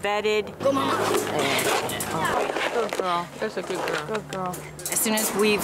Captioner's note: sounds of vollunteers talking